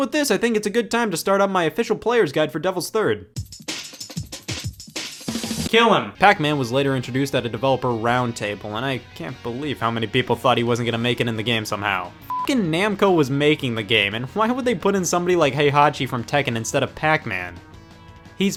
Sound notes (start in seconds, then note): 3.4 upbeat music; 12.2 beep